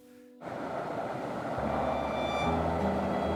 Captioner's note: helicopter whirls; lighthearted music